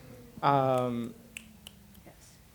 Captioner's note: clicking